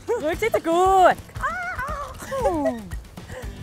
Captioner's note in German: Lachend